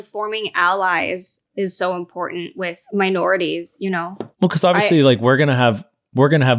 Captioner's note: none